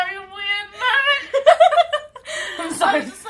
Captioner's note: laughter